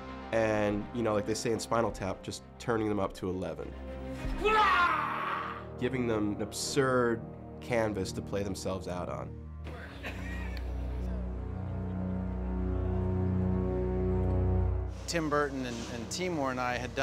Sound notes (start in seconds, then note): 4.2 yells; 9.7 laughs